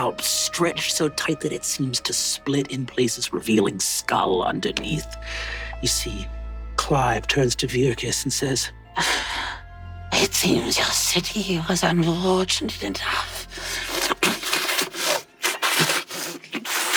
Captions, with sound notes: stretched so tight that it seems to split in places, revealing skull underneath. You see Clive turns to Virkus and says, (inhales sharply) "It seems your city was unfortunate enough..." (sputtering and spitting)